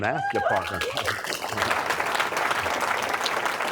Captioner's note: applause